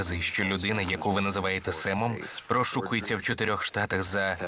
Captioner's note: chuckles